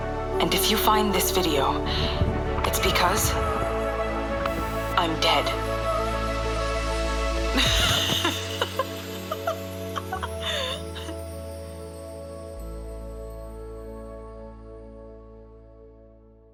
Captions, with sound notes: And if you find this video, it's because... I'm dead. [LAUGHS] LOST RECORDS BLOOM & RAGE